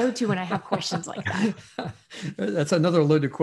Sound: laughing

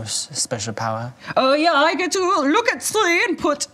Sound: imitates German accent

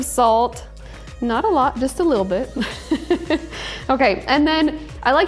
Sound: laughs

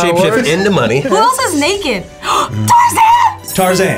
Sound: gasps

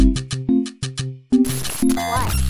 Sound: glitch

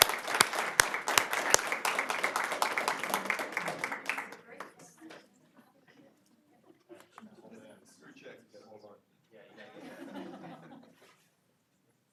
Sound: applause

